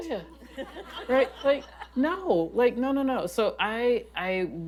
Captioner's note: laughter